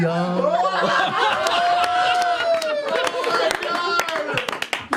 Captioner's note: cheering and applause